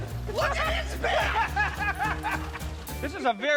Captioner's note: laughs